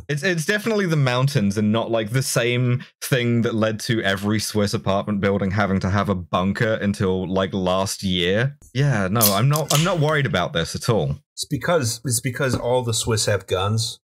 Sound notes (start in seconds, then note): 9.2 TASTY beer can snap